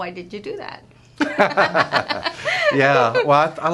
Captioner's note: laughter